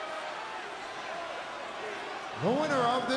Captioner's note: crowd chattering